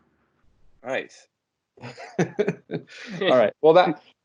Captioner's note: laughter